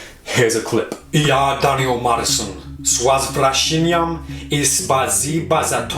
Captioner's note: speaking in foreign language